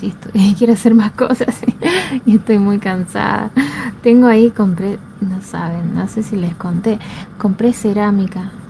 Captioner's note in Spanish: risas